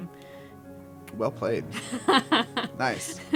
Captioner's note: laugh